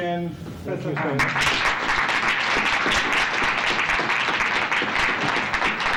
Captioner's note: applause